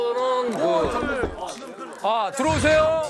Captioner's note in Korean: 똑똑똑